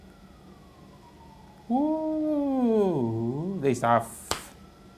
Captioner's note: simulates the sound of ambulance